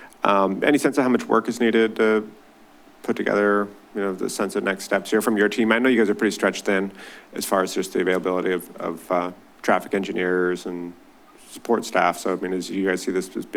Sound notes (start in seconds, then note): none